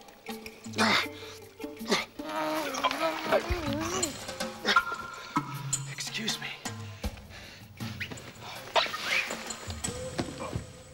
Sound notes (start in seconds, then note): 0.6 <i> straining</i>